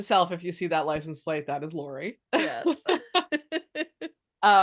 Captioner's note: laughs